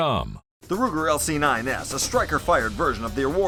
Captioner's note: voiceover